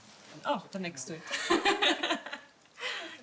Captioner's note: laughs